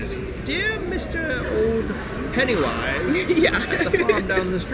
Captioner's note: laughs